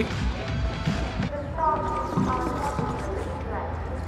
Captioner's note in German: Lautsprecherdurchsagen im Hintergrund